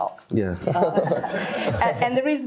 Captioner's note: all laugh